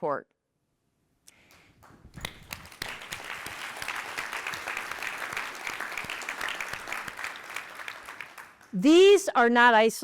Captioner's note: applause